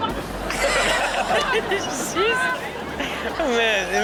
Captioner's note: crowd laughing